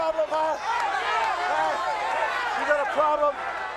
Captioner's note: crowd yelling